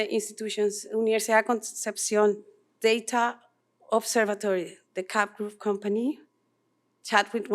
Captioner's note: non-english speech